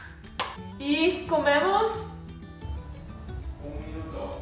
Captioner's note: speaks loudly in Spanish; distant man responds in Spanish